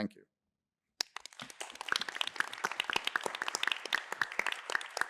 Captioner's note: applause